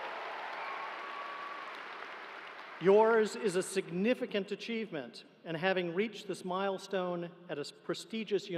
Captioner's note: cheering